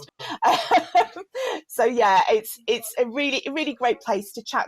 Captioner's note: laughter